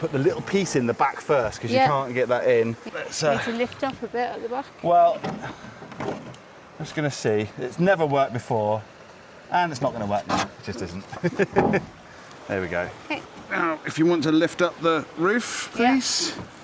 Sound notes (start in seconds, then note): 11.1 laughs